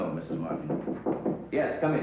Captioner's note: knocking